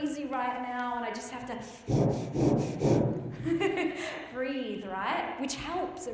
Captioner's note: breathes heavily